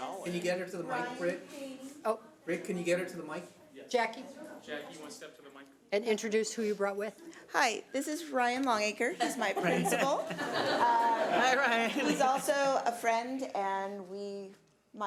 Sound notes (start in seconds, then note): 11.0 audience laughs